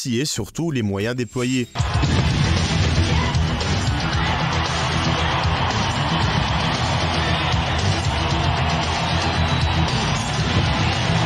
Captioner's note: applause